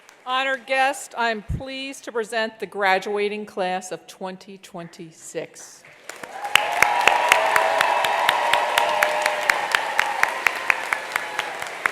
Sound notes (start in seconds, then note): 5.9 attendees applauding; 6.1 attendees cheering